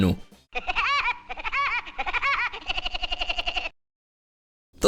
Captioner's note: Woody_laugh.MP3